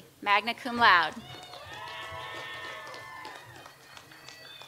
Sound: audience applauds

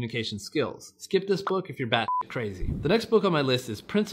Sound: beep

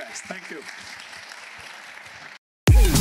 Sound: applause

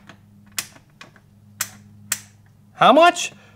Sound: clicking

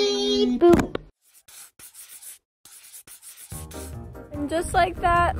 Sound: chalk scratching chalkboard

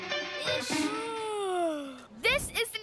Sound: yawns

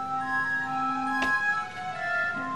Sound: thumps

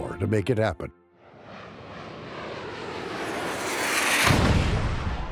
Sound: sound of an aircraft flyimng

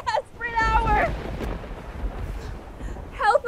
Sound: lightening thundering

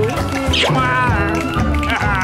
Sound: smooching

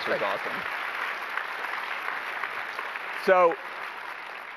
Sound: applause

